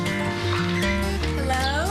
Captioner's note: bag rattling